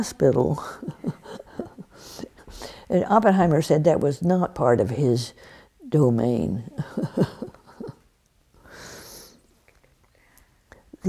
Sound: laughs

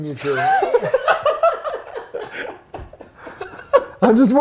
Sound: both laugh

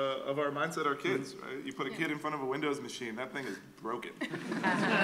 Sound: laughter

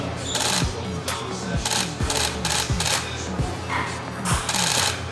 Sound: camera shutter clicks

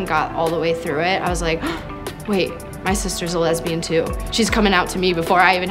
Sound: gasps

